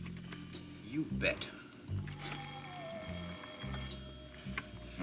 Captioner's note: telephone ring